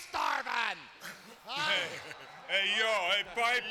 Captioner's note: Ric chuckling